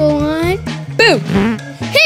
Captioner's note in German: Furzgeräusch